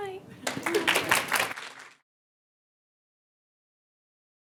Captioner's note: audience clapping